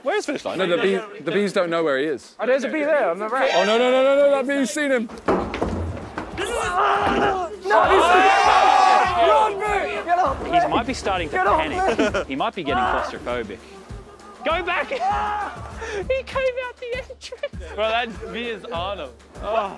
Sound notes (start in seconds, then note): 5.1 door hitting wall; 5.9 Vik screaming; 7.8 contestants yelling; 11.6 Josh chuckling; 14.4 Vik yelling; 16.2 laughing